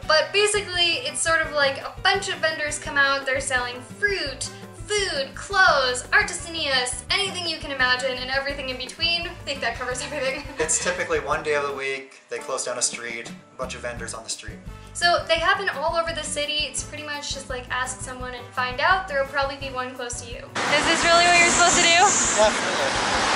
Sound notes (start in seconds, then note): 10.0 laughter